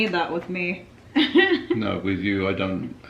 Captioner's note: laughing